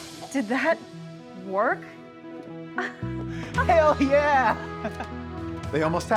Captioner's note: laughs